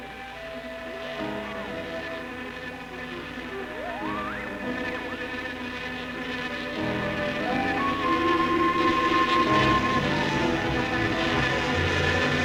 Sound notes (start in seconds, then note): 0.2 buzzing; 2.3 whistling